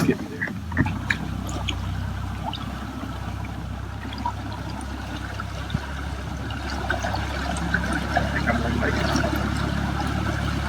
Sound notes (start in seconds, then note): 0.0 engine sputtering; 2.0 boat motor chugging; 2.0 water lapping